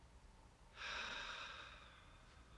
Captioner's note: sighs